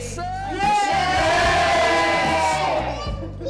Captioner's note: yelling